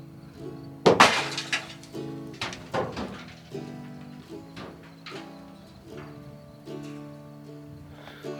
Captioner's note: loud crash and continuous knocking